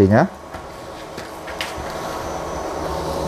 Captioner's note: PET film noise